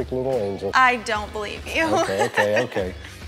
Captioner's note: laughing